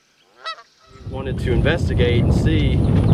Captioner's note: geese honking